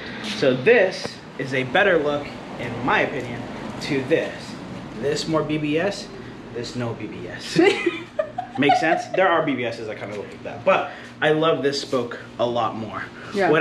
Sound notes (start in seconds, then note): 7.5 giggling